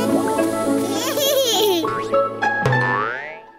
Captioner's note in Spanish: risitas